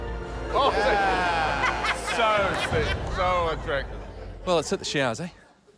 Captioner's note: laughs